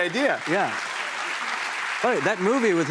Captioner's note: applause